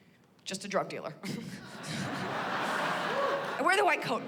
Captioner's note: chuckles